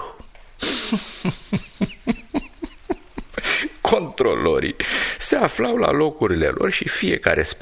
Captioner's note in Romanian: Râsete